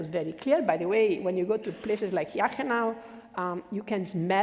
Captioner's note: foreign language